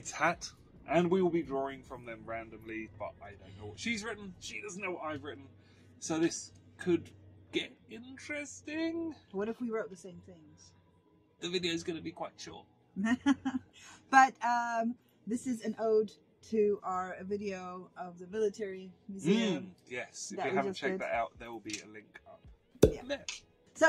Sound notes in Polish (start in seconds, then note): 13.0 śmiech